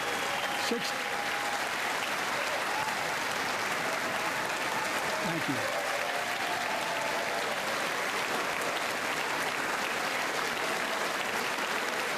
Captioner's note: applause